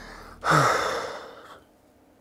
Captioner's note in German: Schwerer Seufzer